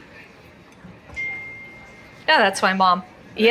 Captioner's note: faint crowd chatter from club; phone chimes